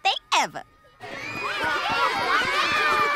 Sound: screaming

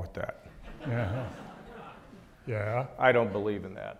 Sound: audience laughs

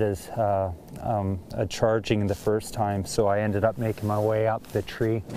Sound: nats of walking

